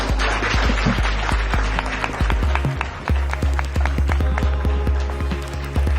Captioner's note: applause